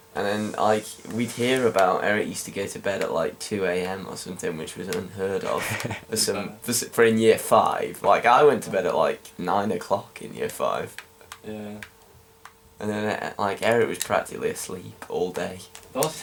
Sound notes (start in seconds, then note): 5.4 Arnold laughs